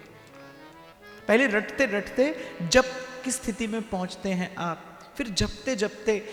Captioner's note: chanting